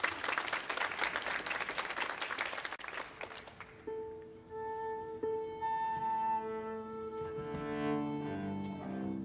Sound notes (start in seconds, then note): 0.0 audience applause; 6.2 instruments tuning